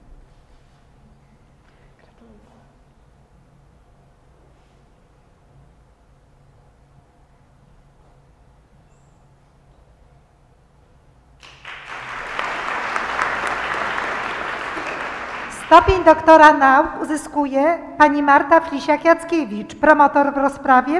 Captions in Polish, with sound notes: [oklaski] Stopień doktora nauk uzyskuje Pani Marta Flisiak-Jackiewicz. Promotor w rozprawie